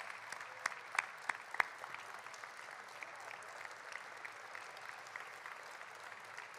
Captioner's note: applause